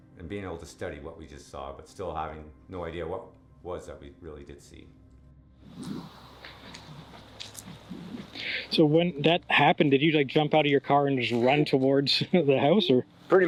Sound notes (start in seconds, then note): 5.6 wind Blows; 6.4 squishy Footsteps